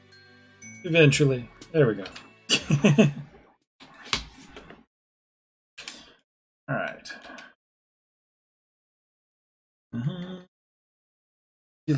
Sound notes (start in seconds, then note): 5.0 chuckles; 10.0 hums